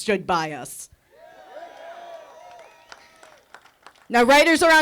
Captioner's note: audience cheering